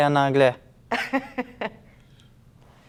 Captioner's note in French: Rire